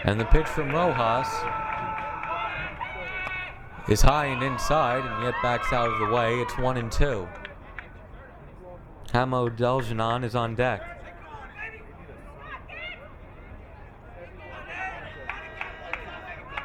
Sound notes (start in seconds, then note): 11.9 crowd cheering